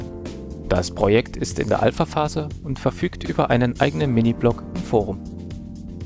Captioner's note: German